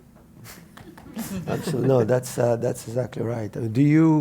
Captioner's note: laugh